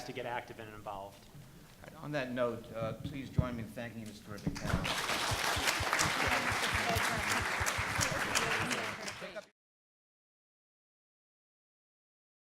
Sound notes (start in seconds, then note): 4.5 applause